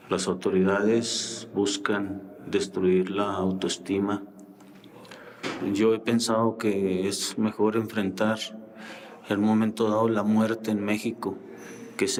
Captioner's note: speaking foreign language